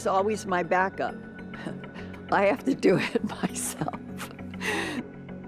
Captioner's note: chuckles